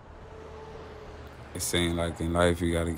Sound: traffic roaring

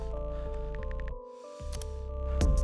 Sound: typing

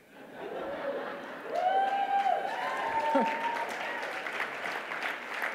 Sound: audience laughing and cheering

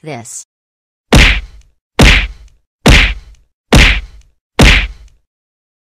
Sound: crushing Sound Effect

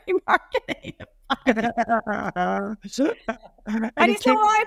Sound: laughing

